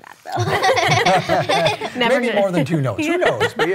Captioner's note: all chuckling